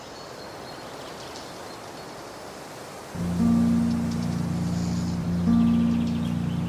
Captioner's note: birds chattering; gentle thoughtful music